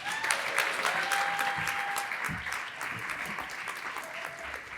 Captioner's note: applause